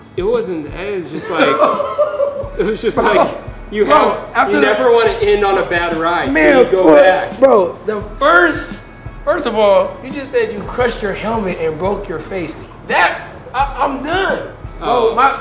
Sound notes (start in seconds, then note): 1.1 laughs